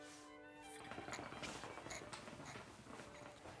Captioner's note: hookah bubbles